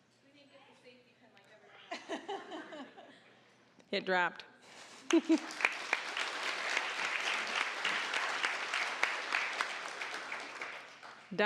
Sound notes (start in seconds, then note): 5.0 applause; 5.0 audience laughing